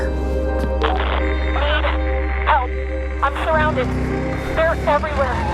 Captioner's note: woman on radio